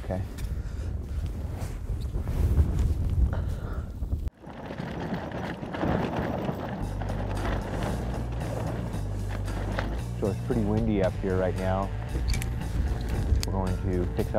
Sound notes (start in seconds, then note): 5.5 wind gusting